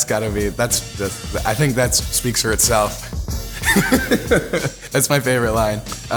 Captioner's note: laughs